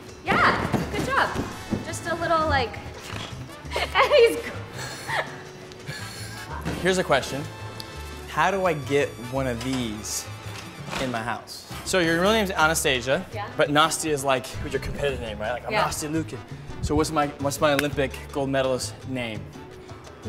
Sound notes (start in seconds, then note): 3.6 laughing